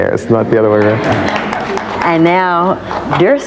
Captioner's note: audience applause